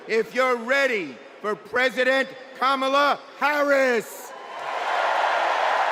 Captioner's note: cheers and applause